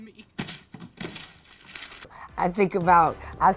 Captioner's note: crumpling paper